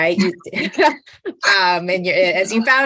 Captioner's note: laughs